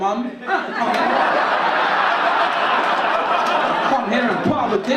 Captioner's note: audience laugh